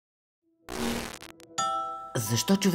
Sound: audio Glitch

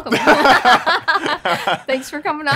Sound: laughing

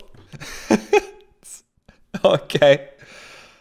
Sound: laughs

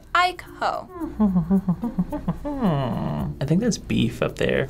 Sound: humming

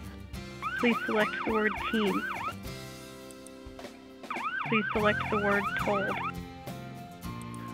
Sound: computer voice on test

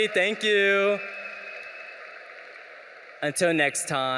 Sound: audience cheering

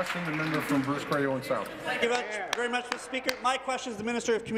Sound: applause

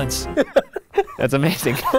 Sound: laughing

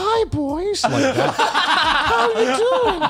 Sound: laughs

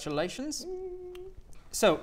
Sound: small woo!

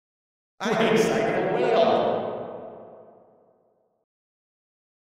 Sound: reverb

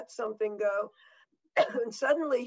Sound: coughs

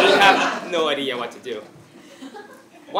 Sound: laugh

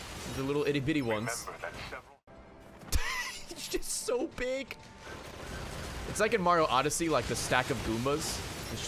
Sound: laughs

